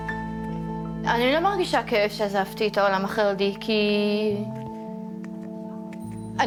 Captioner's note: speaking in foreign language